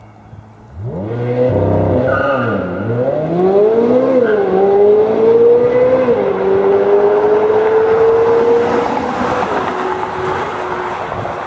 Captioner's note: 2023 Corvette Z06 Exhaust Sounds